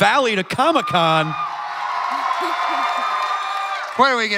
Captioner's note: crowd cheering